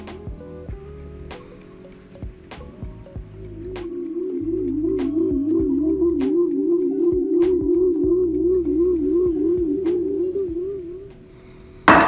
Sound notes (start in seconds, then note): 3.8 UFO warbling